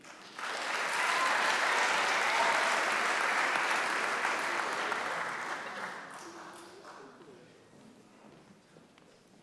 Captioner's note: applause